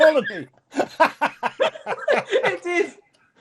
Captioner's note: laughing